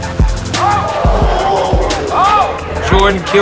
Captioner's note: crowd